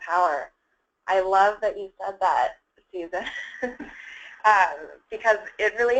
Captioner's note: laughs